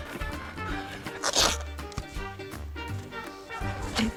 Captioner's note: velcro rips